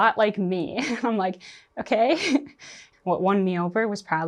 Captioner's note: chuckles